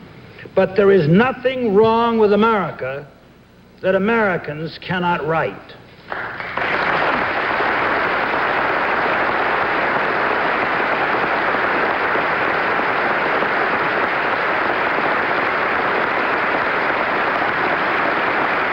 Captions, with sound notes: But there is nothing wrong with America that Americans cannot right. [audience applauding] [applause continues]